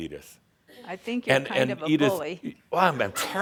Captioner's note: laughter